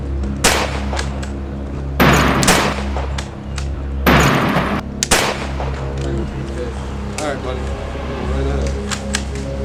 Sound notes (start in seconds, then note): 0.4 gun Shot; 5.0 gun Shot